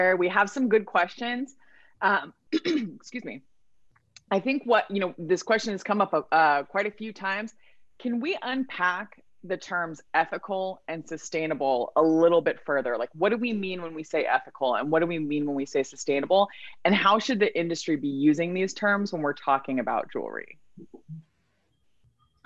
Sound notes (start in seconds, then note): 2.6 clears throat